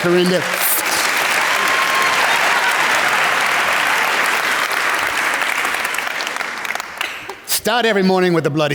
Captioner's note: applause